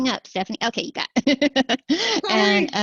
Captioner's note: laughter